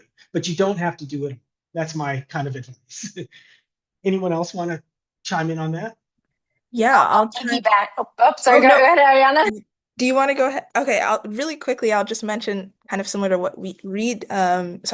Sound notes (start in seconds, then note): 2.9 laughs